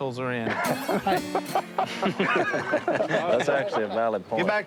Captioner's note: laughing